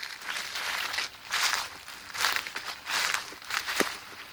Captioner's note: leaves crunching